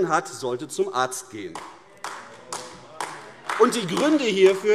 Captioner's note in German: Beifall AfD - Zurufe